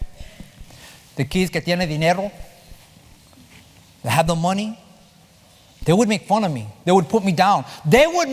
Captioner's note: spanish